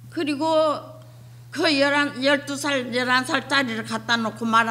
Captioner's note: speaking foreign language